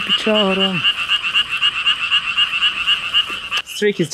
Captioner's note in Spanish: Ribbit ribbit